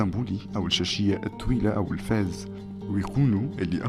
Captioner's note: Turkish